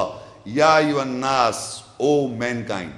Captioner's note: Arabic